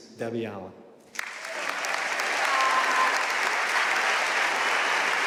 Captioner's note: audience applauding